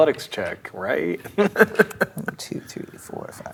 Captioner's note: chuckles; laughs